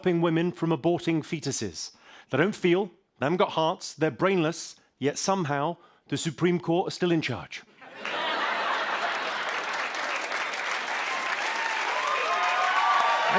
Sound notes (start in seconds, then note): 7.8 laughter; 9.6 cheers and applause